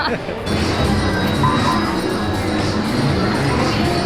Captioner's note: machines beeping